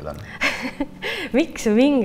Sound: laughs

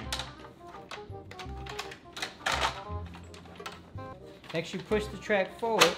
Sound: snapping toy pieces into place

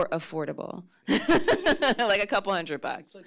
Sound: laughs

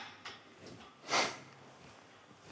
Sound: sniffles

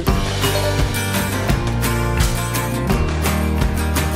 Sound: beeps

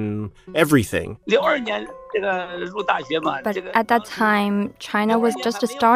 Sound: speaking Mandarin

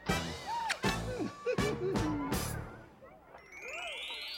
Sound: giggles

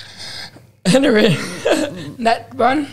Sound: chuckles

